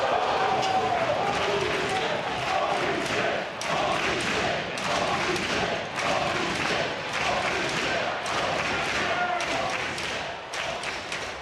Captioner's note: audience chanting "holy --"